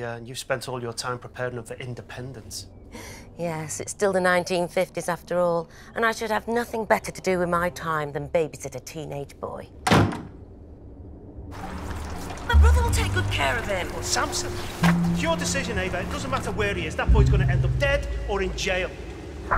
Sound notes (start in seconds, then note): 9.9 door shuts